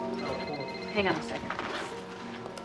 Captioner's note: phone ringing